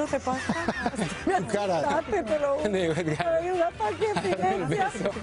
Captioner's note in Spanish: risas